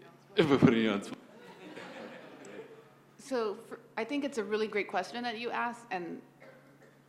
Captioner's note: laugh